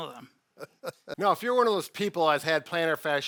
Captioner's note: laughs